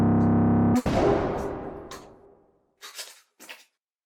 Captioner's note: gun fires